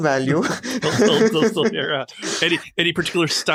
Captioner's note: both laugh